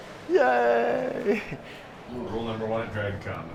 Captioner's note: chuckles